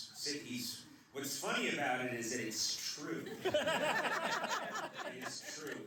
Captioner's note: laughter